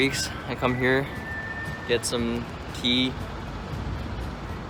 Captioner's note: sip